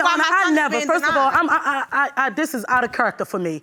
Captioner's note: stammering